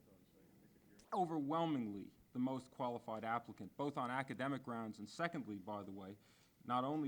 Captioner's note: man talking